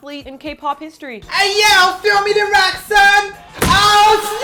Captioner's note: G-Dragon Impersonation